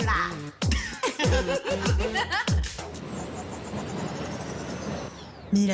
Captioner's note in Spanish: Risas